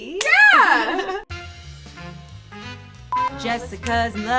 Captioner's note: beep; jazzy music plays